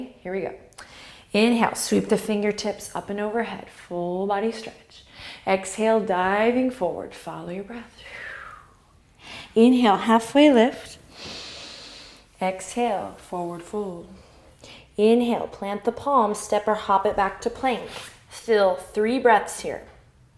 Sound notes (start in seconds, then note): 8.0 exhale; 11.1 inhale